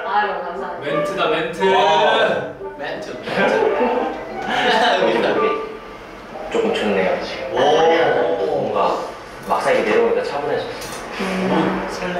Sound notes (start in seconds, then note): 3.1 the voice cracked